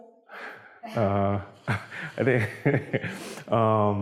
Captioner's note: laughter